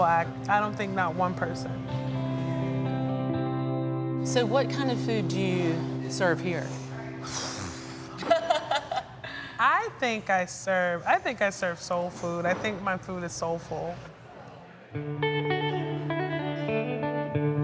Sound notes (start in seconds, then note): 7.1 gasps; 7.3 laughs; 14.9 country music